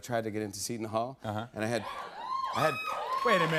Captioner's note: scattered cheers